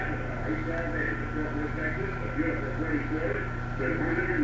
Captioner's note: announcer echoing